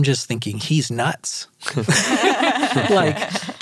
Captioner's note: all laughs